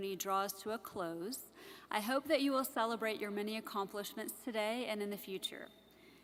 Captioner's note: none